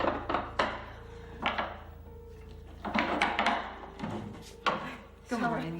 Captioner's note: locks slamming open